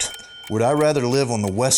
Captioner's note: ding